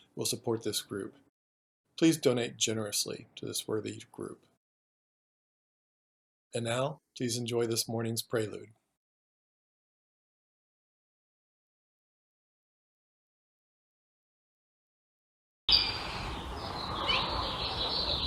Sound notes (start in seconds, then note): 11.9 birds chirping